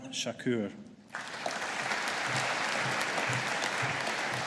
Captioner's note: audience applauding